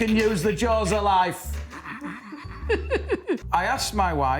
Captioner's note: laughter